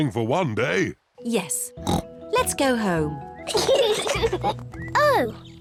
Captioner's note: kids giggle